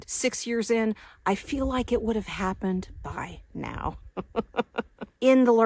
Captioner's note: laughs